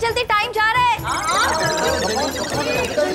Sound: indistinct chatter

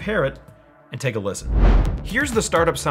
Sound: whooshing

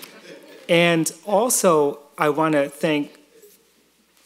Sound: laughter

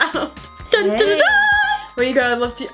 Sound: mimics fanfare

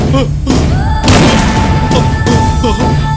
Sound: gunshot

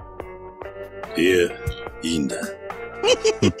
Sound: laughs

